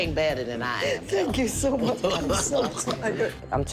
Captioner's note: laughs